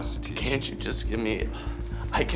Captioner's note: sighs